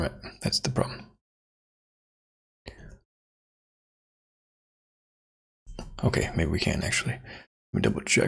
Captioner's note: blank Audio